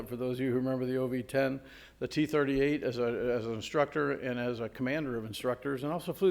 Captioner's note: none